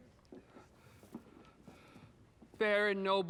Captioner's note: breathes nervously